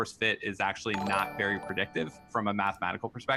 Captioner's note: popup chimes